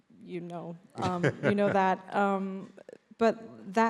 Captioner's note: laughs